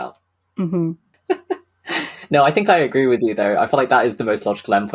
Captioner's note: laughs